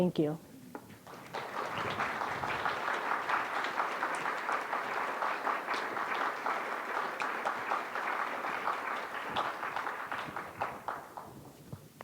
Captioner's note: applause